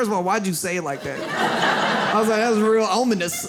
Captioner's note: audience laughs